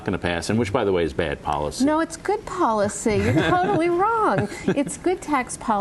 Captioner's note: laughter